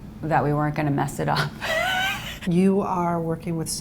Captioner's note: laughs